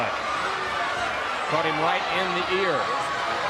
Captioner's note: crowd cheering